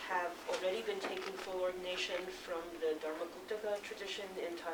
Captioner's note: non-english speech